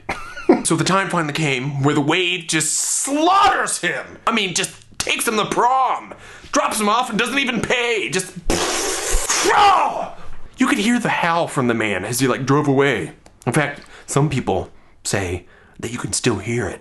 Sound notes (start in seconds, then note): 9.2 screaming